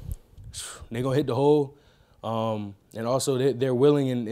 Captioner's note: exhaling sharply